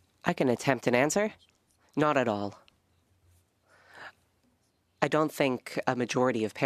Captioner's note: speaking French